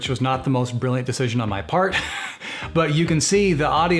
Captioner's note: laughs